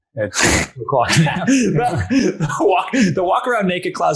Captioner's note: both laughing